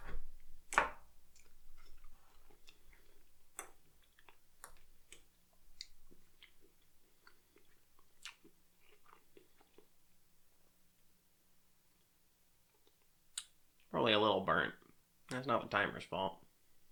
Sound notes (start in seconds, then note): none